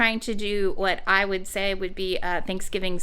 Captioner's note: none